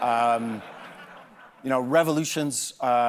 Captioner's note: laughter